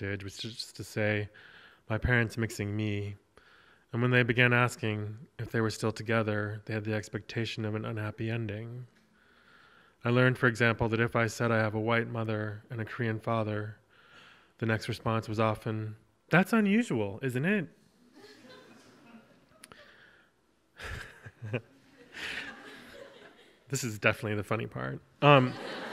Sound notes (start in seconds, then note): 18.1 audience chuckles; 20.8 laughing; 25.3 audience laughs